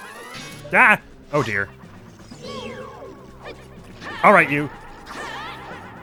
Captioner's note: effort noises